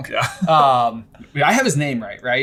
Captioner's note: laughing